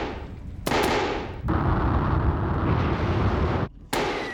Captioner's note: booming